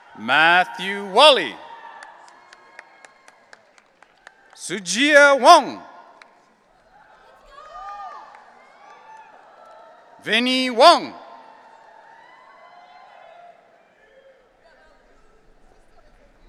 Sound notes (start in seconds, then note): 2.2 audience applauding; 7.5 audience cheering